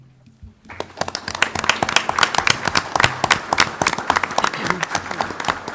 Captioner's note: applauding